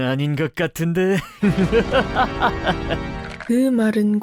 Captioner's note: evil laughter